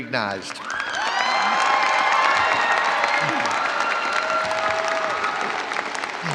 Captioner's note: audience cheering and applauding